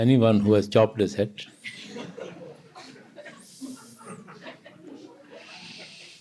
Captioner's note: continued laughter